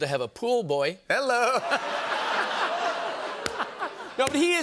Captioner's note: laughter